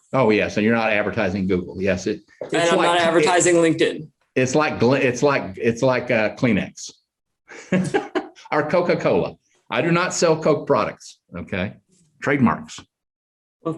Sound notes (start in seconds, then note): 7.5 chuckles